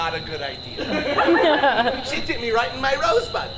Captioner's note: audience laughs